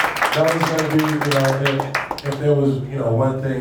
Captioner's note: applauding